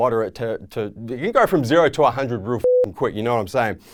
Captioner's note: beep